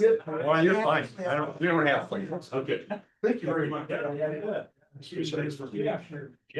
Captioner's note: indistinct chatter